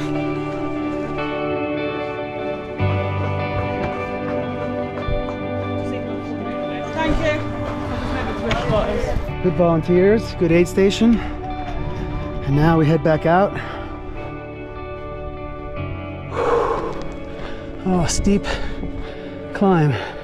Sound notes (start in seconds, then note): 1.8 crowd chattering; 16.2 breathing deeply